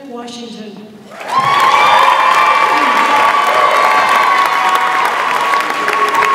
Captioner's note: audience applauds and cheers